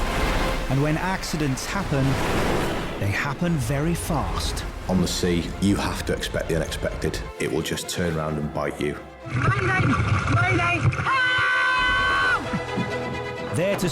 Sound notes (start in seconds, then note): 0.0 waves crashing; 10.9 victim screaming; 12.7 dramatic music